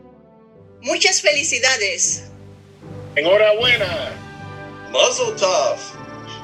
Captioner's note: all speaking in foreign language